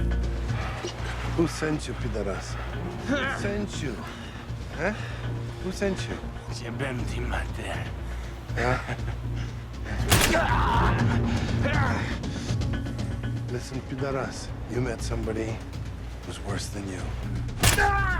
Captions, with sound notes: Who sent you, poderas? Who sent you? Heh? Who sent you? ( MUTTERS IN FOREIGN LANGUAGE ) Listen, poderas, you met somebody who's worse than you.